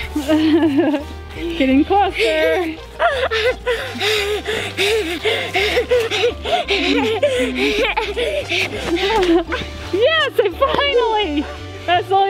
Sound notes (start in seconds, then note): 3.7 giggling